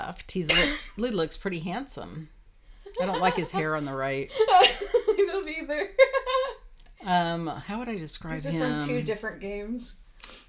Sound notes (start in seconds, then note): 4.3 laughing